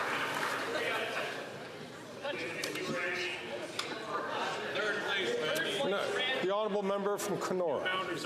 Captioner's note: some Applause